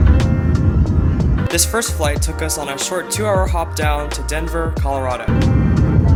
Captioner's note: voiceover